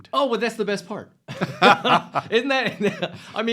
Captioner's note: both laugh